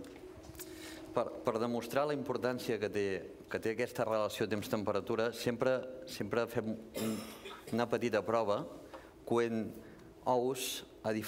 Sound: speaking catalan

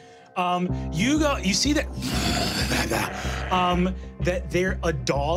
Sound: growling

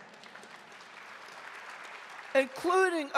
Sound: audience applauding

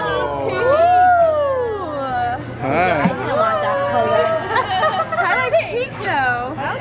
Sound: excited exclaiming

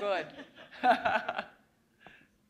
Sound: chuckle

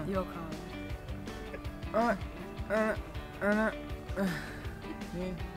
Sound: makes strange noises

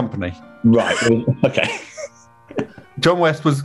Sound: laughs

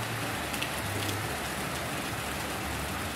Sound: applause

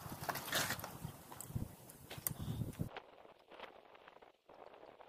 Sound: bike tyre screech

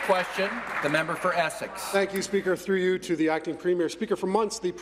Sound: applause

